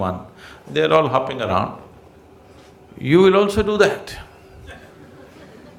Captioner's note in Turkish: gülüşler